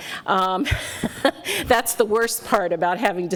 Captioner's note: laughs